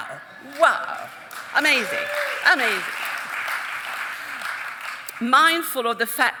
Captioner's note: audience chuckling; audience applauding